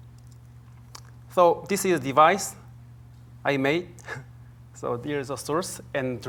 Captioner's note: chuckles